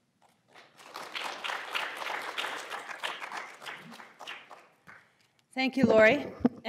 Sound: applause

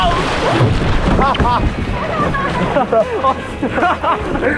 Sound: falling into the water

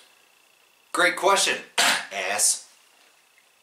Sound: cough

